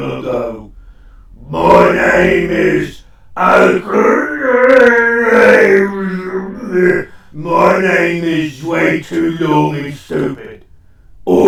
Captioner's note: yelling